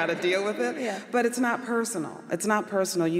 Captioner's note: laughter